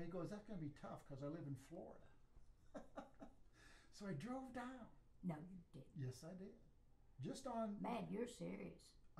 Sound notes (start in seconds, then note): 2.8 laughs